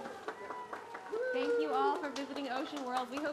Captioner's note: audience cheering; audience applauding